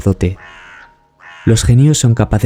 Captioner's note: crows